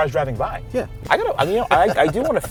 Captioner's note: laughing